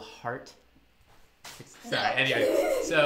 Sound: laughs

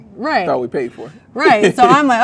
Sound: man laughs

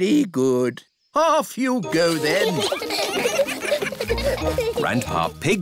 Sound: giggling

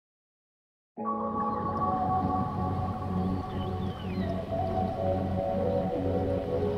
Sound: mellow electronic music; birds chirping

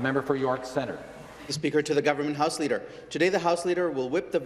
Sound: some Applause

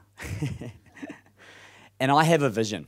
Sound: laughs

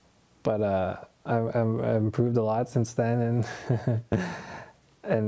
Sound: laughs

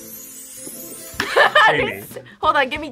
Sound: mystical music; laughs

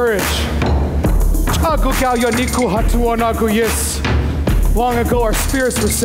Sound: foreign speaking

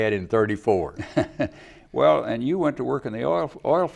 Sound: laughs

